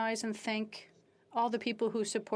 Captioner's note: speaking French